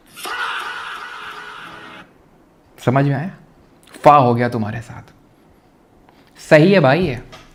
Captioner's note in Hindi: चीखने की आवाज़